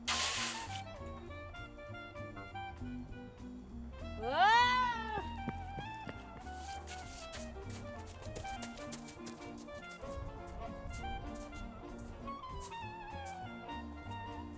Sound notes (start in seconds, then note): 0.0 crunching snow; 4.3 yells in fear; 5.6 sound of footsteps in snow